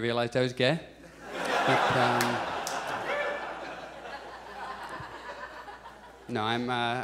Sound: audience laughs

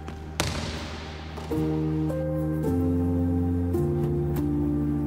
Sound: basketball bouncing; pensive music continues

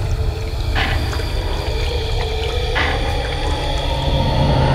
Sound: loud ticking increasing; growling

